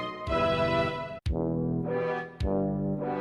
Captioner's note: horn